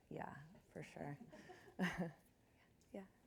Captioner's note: chuckles